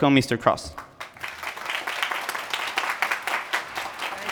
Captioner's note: applause